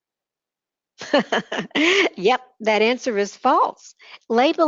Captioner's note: laughter